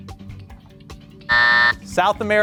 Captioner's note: buzzer buzzing